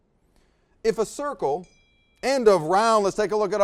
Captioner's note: bell dings